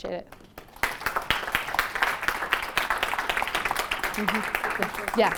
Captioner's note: applause